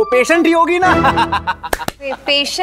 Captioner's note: Laughs